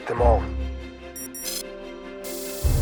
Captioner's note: beeping; text scrolling sound